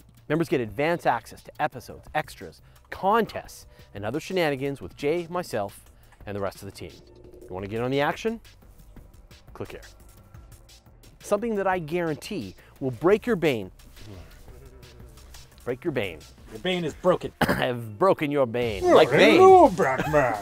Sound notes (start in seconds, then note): 14.0 grunts in frustration; 18.8 laughs